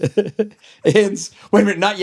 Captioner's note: laughing